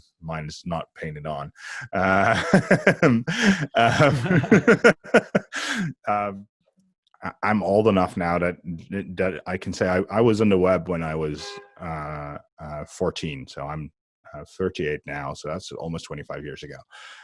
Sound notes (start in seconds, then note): 1.6 laughs